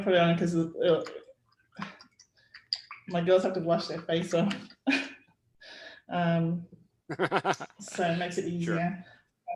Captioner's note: laughs